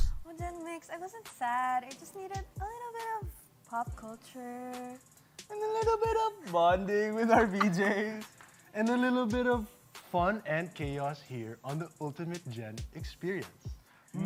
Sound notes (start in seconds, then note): 5.4 high-pitched voice; 6.8 normal voice